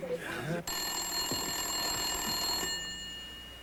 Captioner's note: ringing of telephone